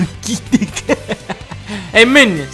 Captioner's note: Dunkey Laugh